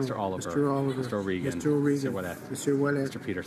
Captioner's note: speaking in french